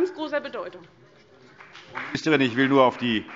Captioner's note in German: Beifall BÜNDNIS 90/DIE GRÜNEN und vereinzelt CDU